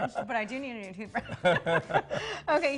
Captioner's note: both laughing